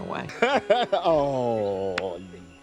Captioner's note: chuckles